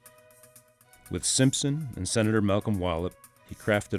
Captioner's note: voiceover